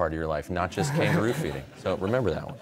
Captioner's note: laughter